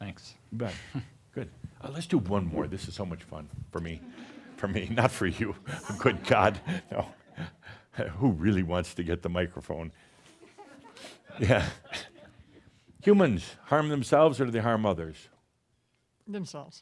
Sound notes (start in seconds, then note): 5.6 chuckles